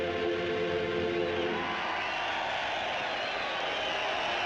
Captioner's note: cheering